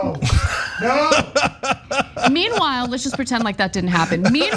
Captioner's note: laugh